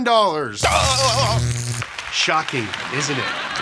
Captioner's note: electricity buzzes; shouts